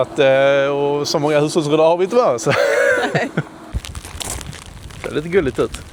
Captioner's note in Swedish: skratt